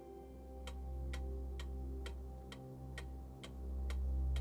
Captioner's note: metronome clicking